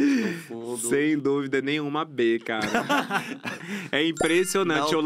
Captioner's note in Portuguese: risos